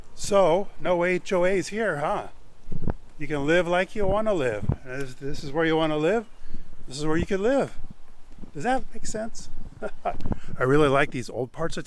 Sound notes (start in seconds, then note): 9.7 laughs